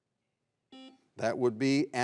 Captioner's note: buzzer beeps